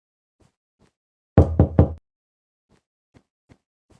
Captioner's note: door Knock